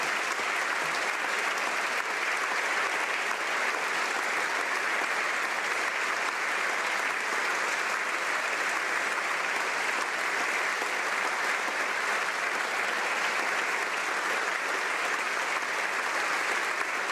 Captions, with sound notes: GOD BLESS YOU. [ Applause ]